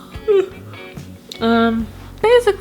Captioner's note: yawning